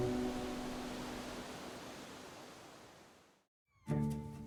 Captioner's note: waves lapping